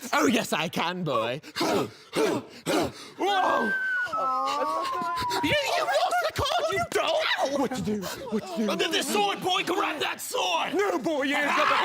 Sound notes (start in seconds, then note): 1.7 grunting; 3.4 whistling down